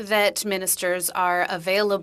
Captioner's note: speaking French